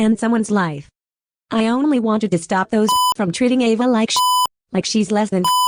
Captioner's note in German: Piep